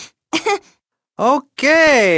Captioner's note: softly laughs